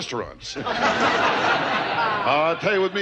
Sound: audience laughter

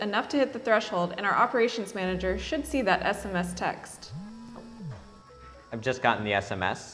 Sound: phone vibrates

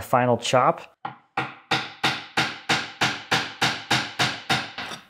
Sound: hammer banging

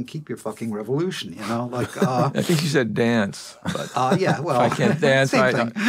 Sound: laughs

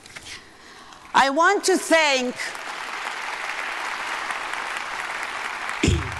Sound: audience applauding

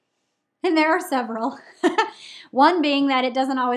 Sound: laughs

